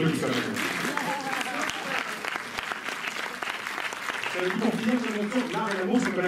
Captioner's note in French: applaudissements du public